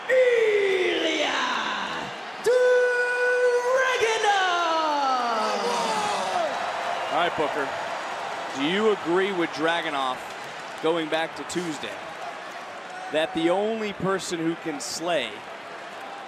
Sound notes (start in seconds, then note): 7.1 crowd cheers